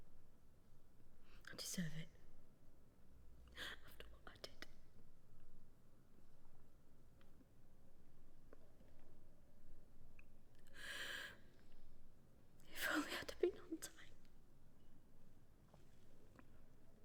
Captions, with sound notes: I deserve it. After what I did. (Catherine crying softly) If only I'd been on time,